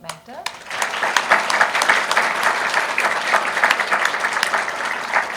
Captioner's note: audience applauding